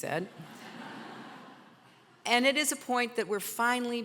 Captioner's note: audience laughter